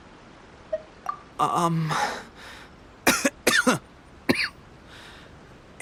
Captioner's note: cough